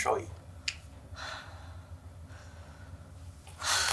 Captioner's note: Joy sighs